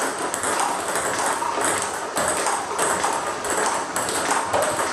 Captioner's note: ball ping pong hitting continues